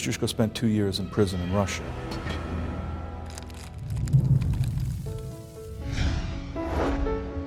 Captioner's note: wind sound